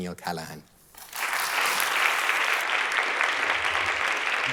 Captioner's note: applause